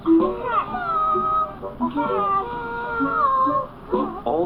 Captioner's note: all chattering looking for things